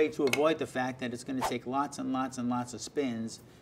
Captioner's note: whooshing